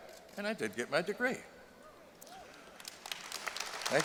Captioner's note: applause